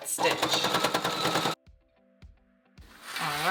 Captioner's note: machine sewing